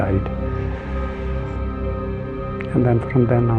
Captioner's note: sororrowfwfulul tonone e